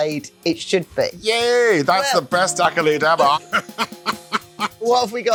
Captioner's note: laughing